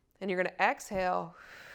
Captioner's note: exhales